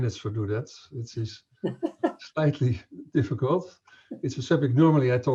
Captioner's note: laughs